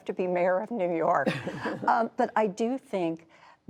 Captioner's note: laughter